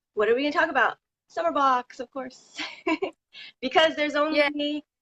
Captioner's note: laughs